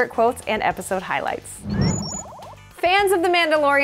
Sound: swoosh

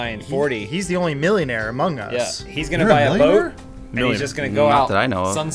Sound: surprised

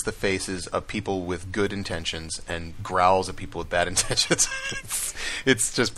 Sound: laughs

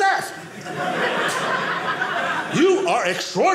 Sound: audience laughing

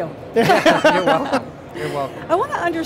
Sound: laughter

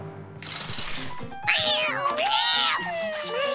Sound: meowing

